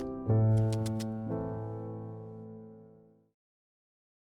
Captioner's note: pictures click